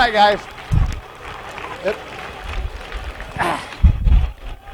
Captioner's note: applause